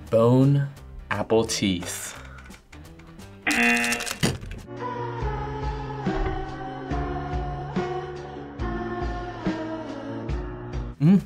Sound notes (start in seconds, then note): 3.4 buzzer rings; 4.9 somber music